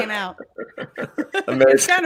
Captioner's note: laughing